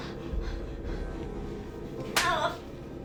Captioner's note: ominous music; Heather panting; hand slapping